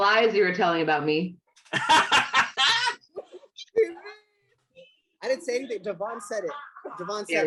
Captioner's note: laughter